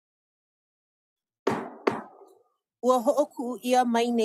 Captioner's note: gavel bangs twice